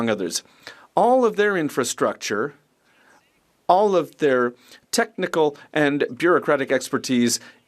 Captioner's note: speaking French